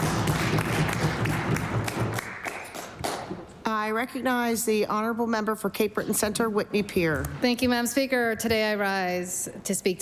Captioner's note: some Applause